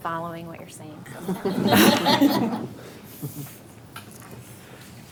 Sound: board laughs

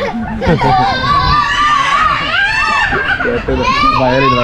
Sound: is crying

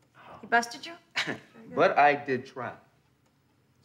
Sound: chuckles

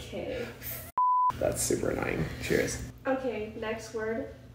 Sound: beep

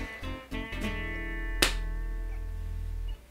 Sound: slap

